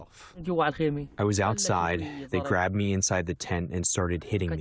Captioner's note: through translator